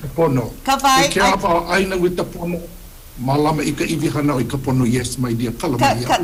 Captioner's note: speaks Hawaiian; speaks Hawaiian